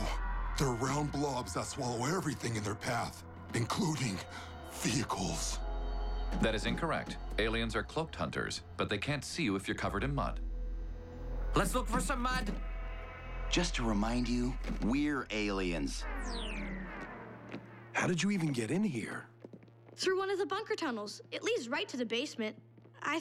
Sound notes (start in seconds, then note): none